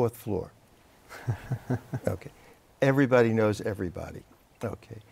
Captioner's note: laughter